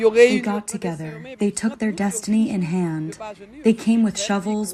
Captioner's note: through translator